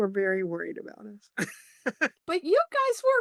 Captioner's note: laughs